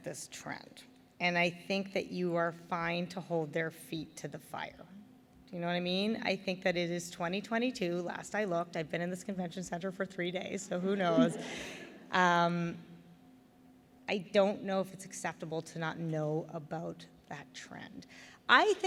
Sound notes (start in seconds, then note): 10.8 laughter